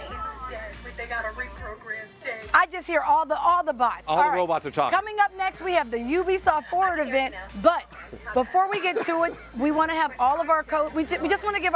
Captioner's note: laughter